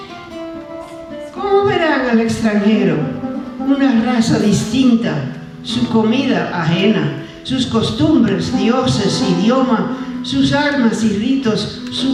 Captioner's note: speaking spanish